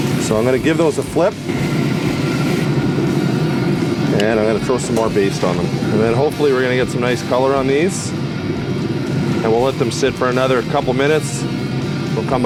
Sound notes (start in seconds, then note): 0.0 grill sizzles; 1.8 grill roars